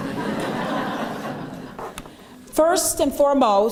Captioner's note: laughter